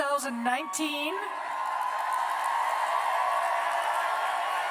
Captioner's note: cheers and applause